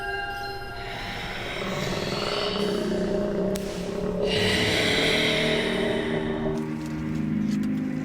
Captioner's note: growling